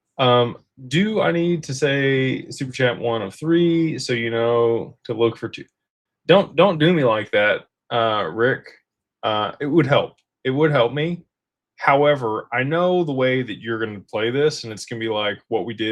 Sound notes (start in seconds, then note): none